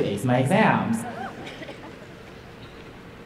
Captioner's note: crowd laughs